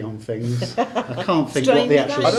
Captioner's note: laughing